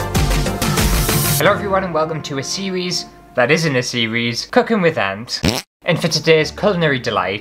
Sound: intro Music; fart

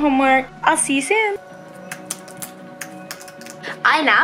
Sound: computer typing

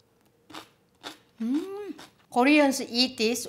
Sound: crunching

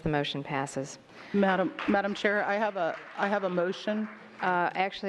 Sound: applause

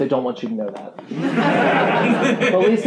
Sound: laughing

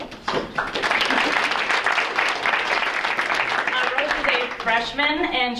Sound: audience applauding

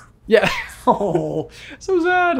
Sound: laughs

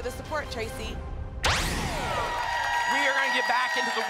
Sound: laser sound

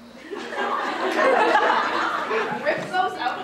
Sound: audience laughter

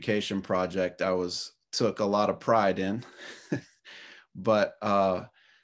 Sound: chuckles

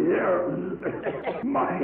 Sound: cough

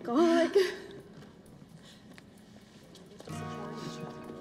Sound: women giggling

